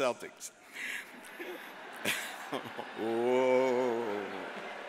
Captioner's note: audience murmurs